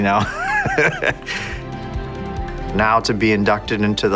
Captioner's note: laughing